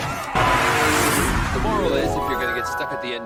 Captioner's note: incoherent yelling; flashback sfx